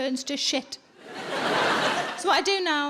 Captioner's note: audience laughing